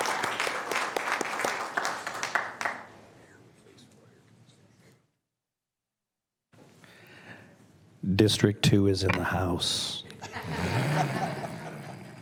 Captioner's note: applause